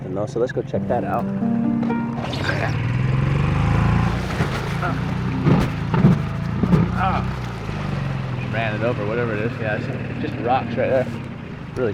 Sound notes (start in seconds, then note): 0.7 tender music; 3.7 engine rumbling